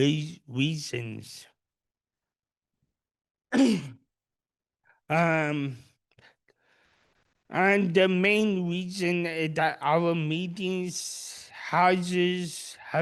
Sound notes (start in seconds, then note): 3.5 cough